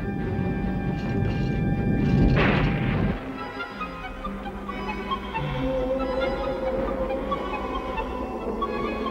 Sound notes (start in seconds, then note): 1.8 thunder crashes; 4.0 mysterious music